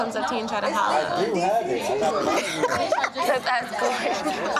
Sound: ladies laughing

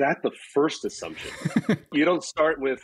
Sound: laughs

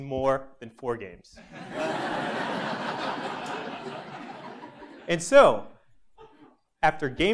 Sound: laugh

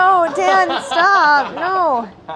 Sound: laughing

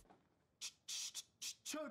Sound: Dave beat boxes

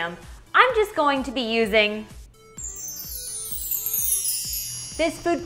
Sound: chimes ringing

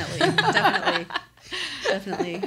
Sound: laughing

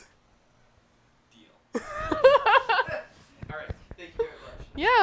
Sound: ridiculous, unrestrained laughter

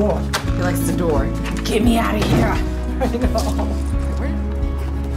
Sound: laughter

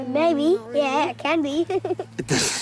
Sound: laughs

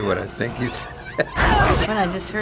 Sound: laughing; baby carrots scream in horror

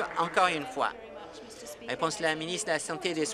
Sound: applause

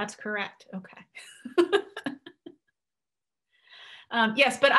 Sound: laughing

